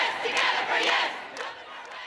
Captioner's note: chanting